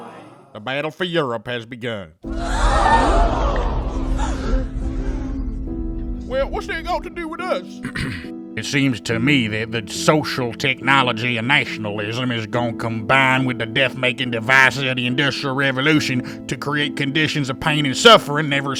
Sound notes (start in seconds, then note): 7.8 throat clear